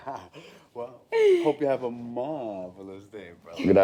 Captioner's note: laughing; laughing